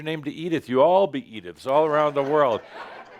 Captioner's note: laughter